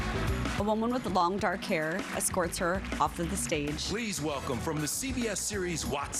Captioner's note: applause